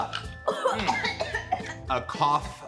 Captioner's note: girl coughs